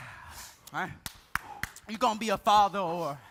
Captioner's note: hands clapping